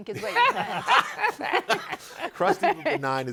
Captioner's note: all laughing